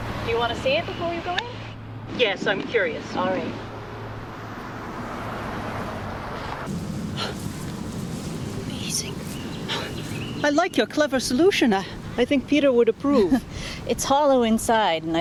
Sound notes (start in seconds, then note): 9.4 birds chirping; 9.6 gasps; 13.2 laughs